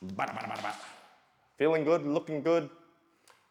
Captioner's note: mimics babbling; claps